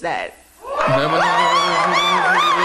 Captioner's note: cheering